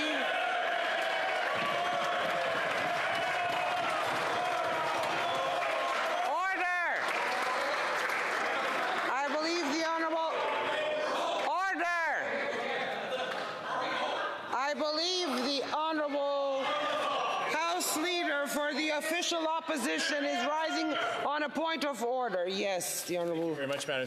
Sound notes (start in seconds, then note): 4.2 cheering and Applause